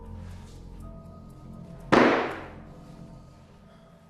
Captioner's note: strike on table